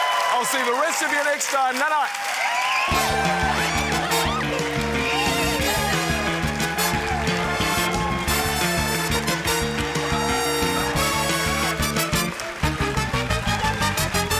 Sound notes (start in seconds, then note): 0.0 cheering, applause; 7.7 cheering, applause